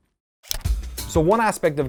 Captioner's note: button clicks